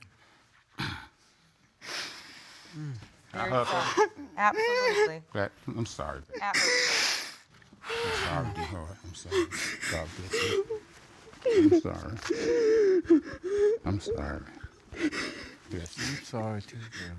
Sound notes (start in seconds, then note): 3.4 sobbing